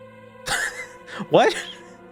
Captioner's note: laughing